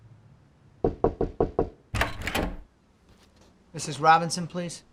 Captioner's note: knocking